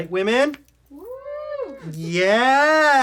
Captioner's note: cheers in background